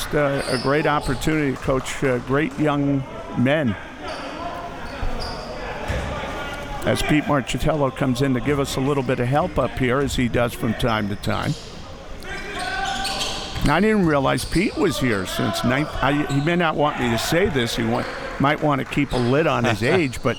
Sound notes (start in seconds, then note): 4.6 audience chattering and yelling